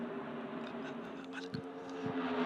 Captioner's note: whispering